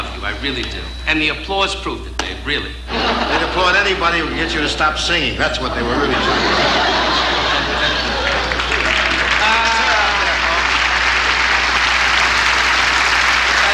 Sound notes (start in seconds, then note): 6.3 audience laughing; 8.0 audience applauding